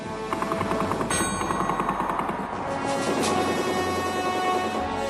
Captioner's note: guns blasting